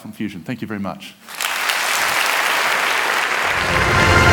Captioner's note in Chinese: 掌聲